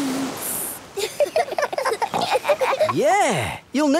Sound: giggling

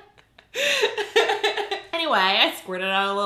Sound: laughing

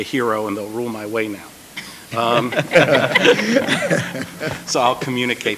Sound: laughter

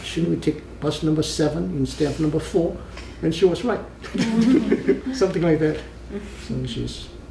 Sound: all laugh

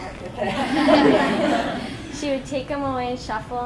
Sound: class laughing

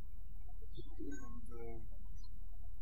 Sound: birds chirping

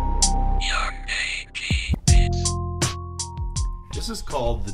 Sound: computerized voice

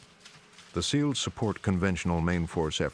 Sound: voiceover

